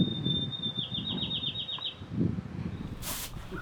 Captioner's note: sounds of birds chirping